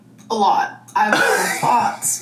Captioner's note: laughs